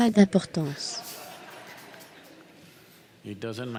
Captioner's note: audience laughs